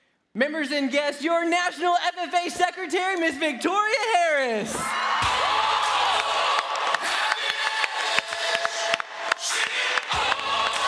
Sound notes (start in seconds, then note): 4.9 crowd applauding; 5.2 upbeat music